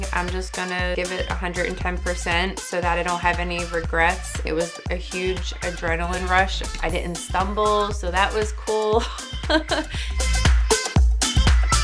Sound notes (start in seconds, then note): 9.1 laughs